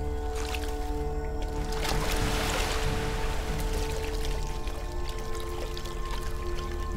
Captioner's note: suspenseful music; water sloshing